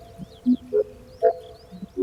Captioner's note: the remaining wind fades